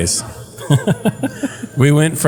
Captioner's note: laugh